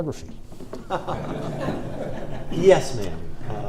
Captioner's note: audience laughs